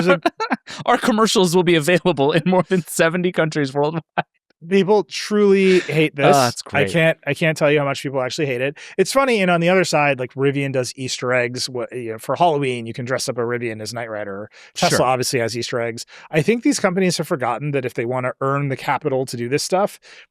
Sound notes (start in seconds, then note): 5.4 laughs